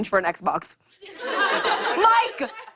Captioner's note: laughter